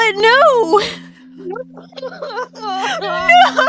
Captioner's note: crying/laughing noises